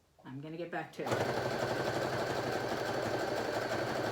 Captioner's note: sewing machine sounds